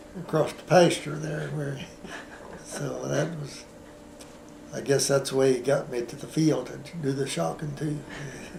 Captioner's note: laughter